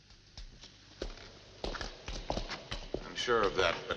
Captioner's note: footsteps